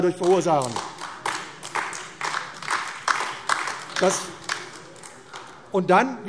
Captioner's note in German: Beifall AfD